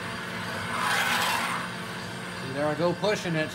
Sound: metal screeching

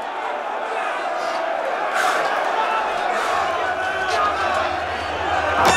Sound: panting

